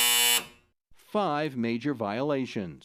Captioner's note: buzzer